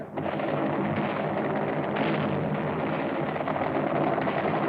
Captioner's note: heavy gunfire